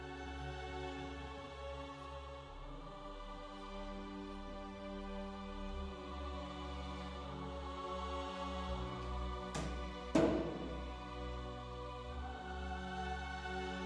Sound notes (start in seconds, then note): 10.1 loud banging